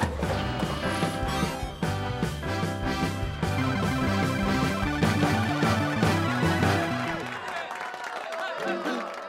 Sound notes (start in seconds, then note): 2.0 beeps; 4.5 electronic music; 6.3 cheering